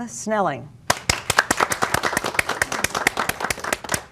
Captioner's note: applause